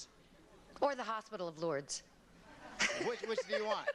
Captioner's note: laughs